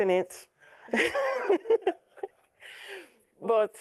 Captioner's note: laughs